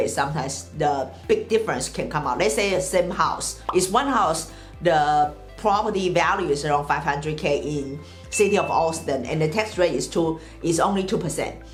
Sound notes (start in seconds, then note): 3.6 bubble pops; 8.3 bell chimes